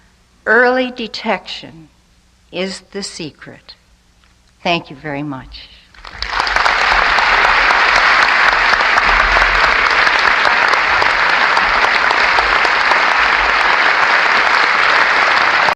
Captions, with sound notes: Early detection is the secret. Thank you very much. [applause]